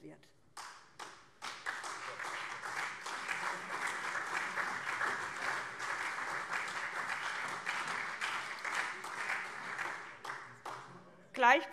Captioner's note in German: Beifall SPD, CDU und vereinzelt BÜNDNIS 90/DIE GRÜNEN